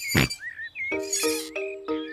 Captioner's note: oinks